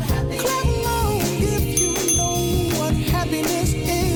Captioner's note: ding ding!